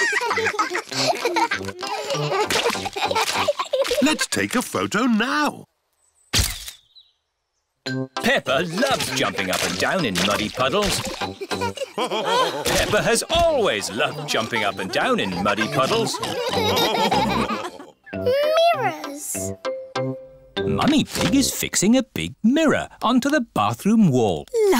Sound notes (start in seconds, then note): 0.0 both giggling; 6.4 camera clicks; 12.0 all laughing